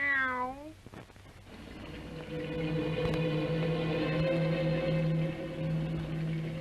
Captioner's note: cat meowing; machines whirring; foreboding music